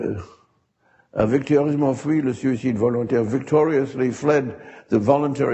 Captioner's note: speaks a foreign language